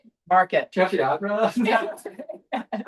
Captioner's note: laughter